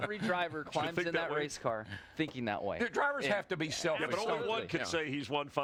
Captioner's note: laughter